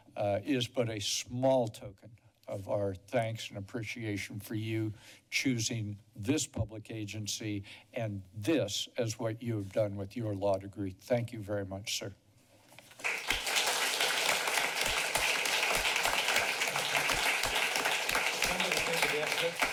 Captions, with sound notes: uh, is but a small token of our thanks and appreciation for you, choosing this public agency and this as what you have done with your law degree. Thank you very much, sir. [Applause]